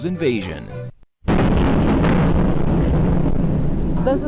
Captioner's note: bomb explodes